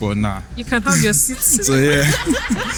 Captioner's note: laughs